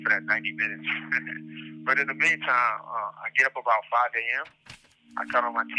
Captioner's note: chuckle